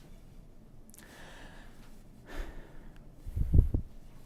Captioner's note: deep breathe